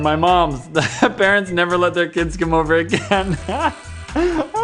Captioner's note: laugh; louder Laughter; more laughs